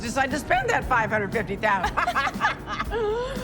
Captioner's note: both laughing